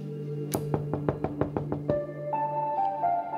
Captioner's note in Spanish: toques en la puerta